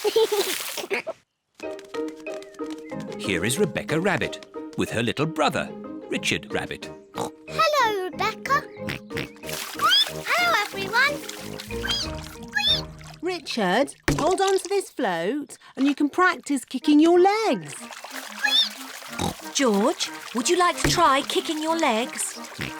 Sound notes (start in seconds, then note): 0.0 giggles; 8.8 oinks; 9.7 squeaks; 11.7 richard squeaks; 18.6 squeaks